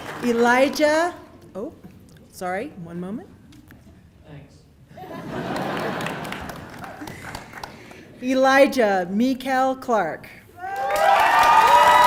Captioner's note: applause